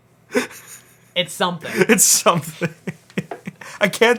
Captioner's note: laughs